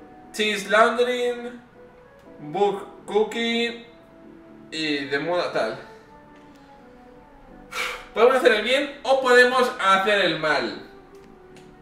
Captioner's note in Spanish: suspiro